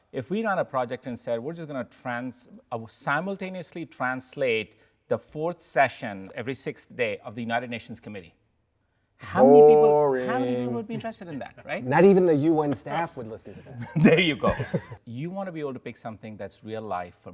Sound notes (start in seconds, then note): 13.8 both laugh